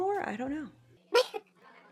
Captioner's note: laughs